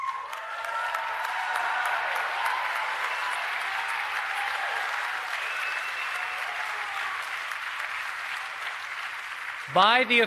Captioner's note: applause